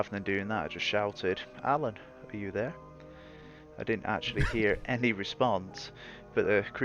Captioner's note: laughter